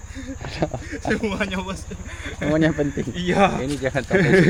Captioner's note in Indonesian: tertawa